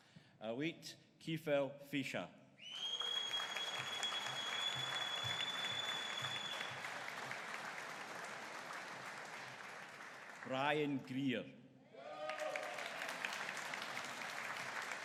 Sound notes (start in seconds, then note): 3.0 audience cheering; 12.0 audience cheering